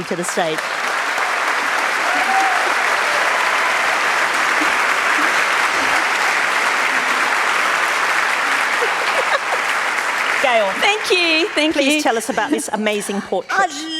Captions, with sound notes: [ Applause ] Gayle. >> Thank you! Thank you! >> Please tell us about this amazing portrait.